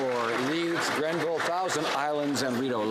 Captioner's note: some Applause